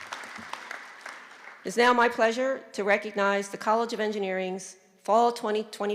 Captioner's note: applause